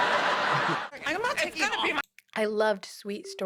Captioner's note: bickering